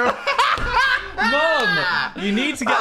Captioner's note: Dan laughs